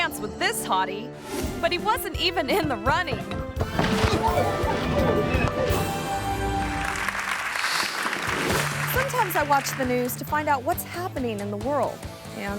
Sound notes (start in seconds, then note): 3.6 body thuds; 3.7 feet scuffling; 6.1 audience clapping; 6.9 image whooshes